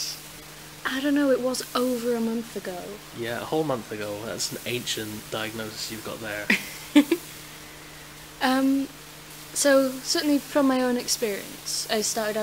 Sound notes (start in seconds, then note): 6.4 laughs